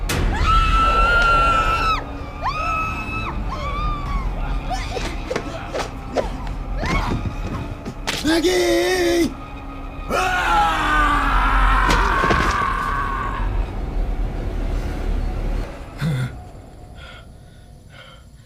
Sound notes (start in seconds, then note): 0.1 dramatic music; 0.1 woman screaming; 6.8 thudding; 10.0 screaming; 13.6 suspenseful music; 17.0 gasping